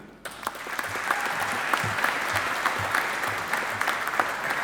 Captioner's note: audience applauding